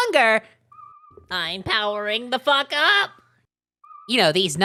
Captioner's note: Spongebob voice